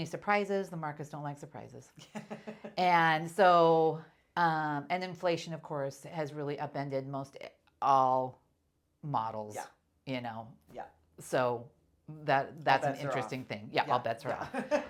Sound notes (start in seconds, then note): 2.0 laughing